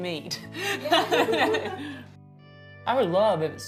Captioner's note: laughing